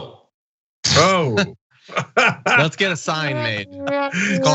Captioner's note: laugh